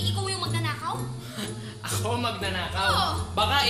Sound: laughs sarcastically

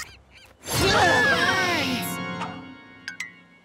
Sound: screaming

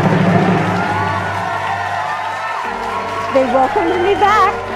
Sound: drum roll; cheering

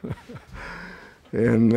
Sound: laughs

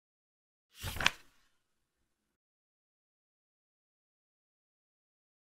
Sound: page flip sound

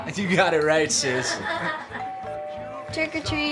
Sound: doorbell rings

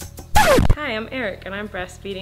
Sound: light groovy music; record scratches

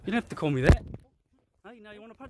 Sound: thud

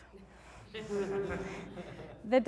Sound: laughing

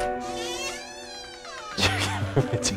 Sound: door screeching

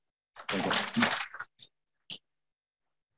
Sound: audience clapping

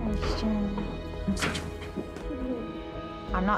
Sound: both murmuring

